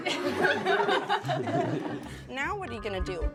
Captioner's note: children laugh